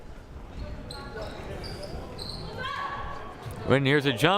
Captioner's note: whistle blaring; crowd murmuring